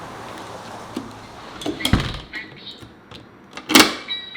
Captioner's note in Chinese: 大门关闭